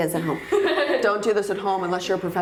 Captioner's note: laughing